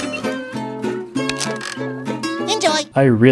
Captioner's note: thunk; boop